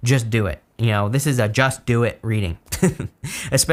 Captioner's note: laughs